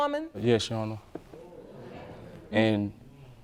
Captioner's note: audience murmuring